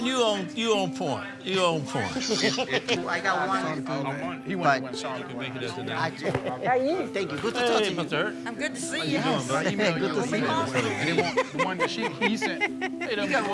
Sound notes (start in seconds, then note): 1.9 all laughing; 4.6 overlapping chatter; 10.7 laughing; 10.7 overlapping chatter